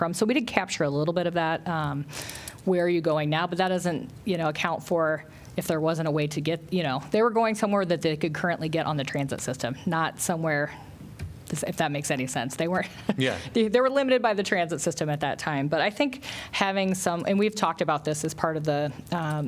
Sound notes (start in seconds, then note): 12.9 laughter